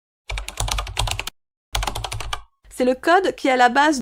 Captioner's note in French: bruit de clavier